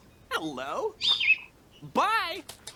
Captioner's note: chirp